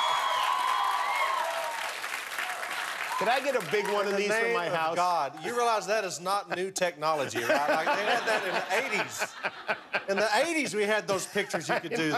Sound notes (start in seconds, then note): 2.5 cheers and applause